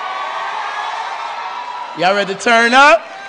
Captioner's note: cheering